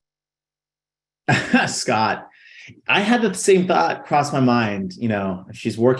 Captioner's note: laughs